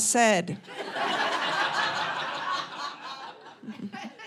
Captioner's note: audience laughing